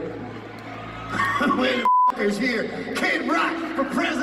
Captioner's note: laughs; beep